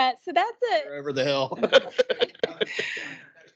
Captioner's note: laughing